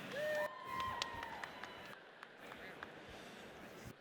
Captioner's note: audience cheers